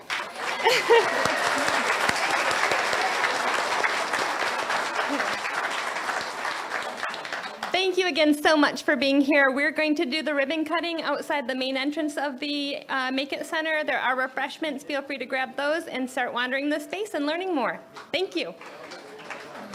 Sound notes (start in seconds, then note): 3.6 audience applauds